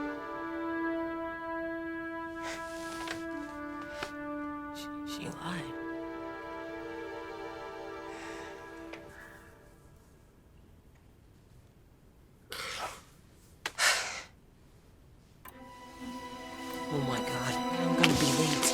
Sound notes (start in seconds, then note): 12.5 sighs